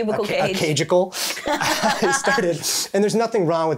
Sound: both laughing

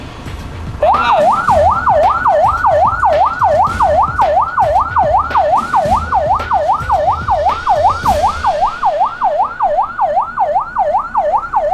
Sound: fire truck siren ringing

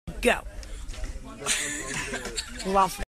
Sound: laughter

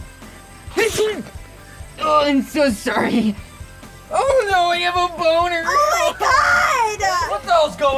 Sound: sneezes

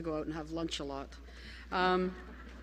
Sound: laughter

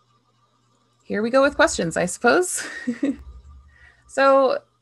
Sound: laughs

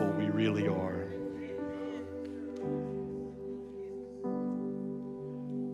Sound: congregation murmurs; gentle piano and synth music

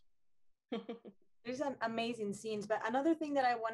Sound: chuckles

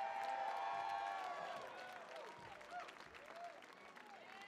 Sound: audience cheering

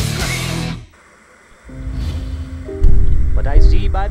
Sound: television static buzzing; gentle piano music

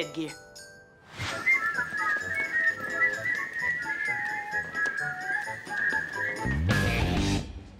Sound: whistling

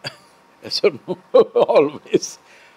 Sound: laughs

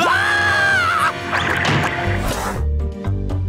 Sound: screaming; door shutting

